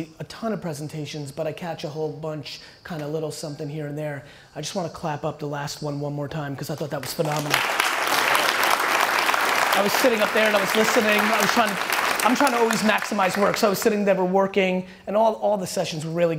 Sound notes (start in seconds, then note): 7.2 applause